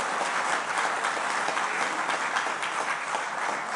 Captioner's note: applause